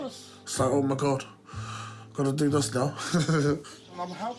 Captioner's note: laughs